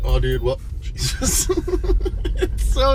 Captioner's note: laughing